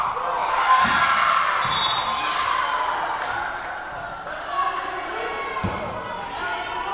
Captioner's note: Lions cheering; whistle blowing